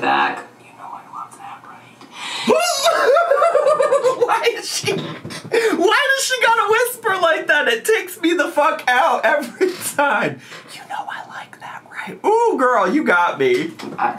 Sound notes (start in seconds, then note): 2.4 laughs